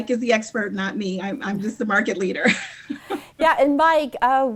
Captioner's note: laughs